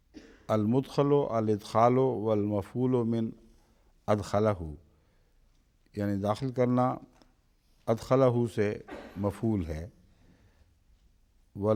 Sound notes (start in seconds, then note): 0.6 Arabic